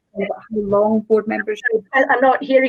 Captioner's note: audio distorts